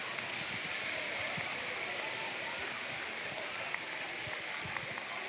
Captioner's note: applause